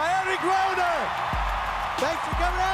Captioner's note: applause